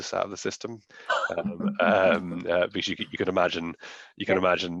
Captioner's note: laughing